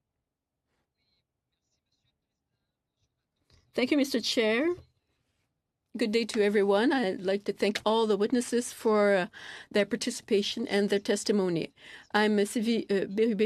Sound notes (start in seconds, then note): 2.0 speaking French